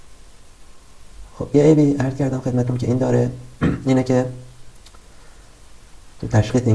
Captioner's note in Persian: گلویش را صاف می‌کند